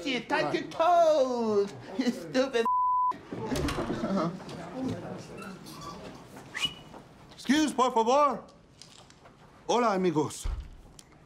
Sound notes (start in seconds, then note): 6.5 whistles